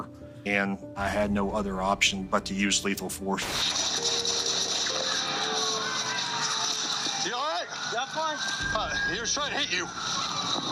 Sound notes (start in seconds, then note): 3.3 rapid gunshots